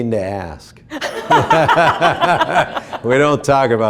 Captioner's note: laughing